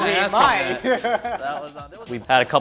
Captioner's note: laughing